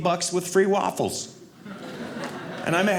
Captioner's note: audience laughing